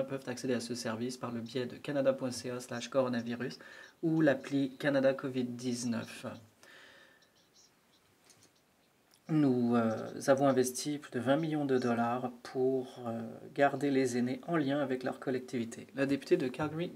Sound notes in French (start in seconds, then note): 3.9 voix de l'interprète